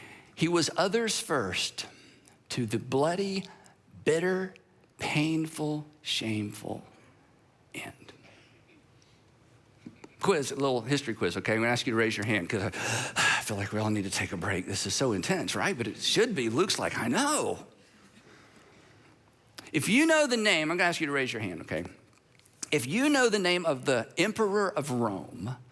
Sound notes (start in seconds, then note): 12.7 exhales